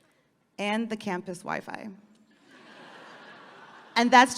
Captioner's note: audience laughing